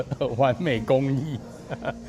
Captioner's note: haha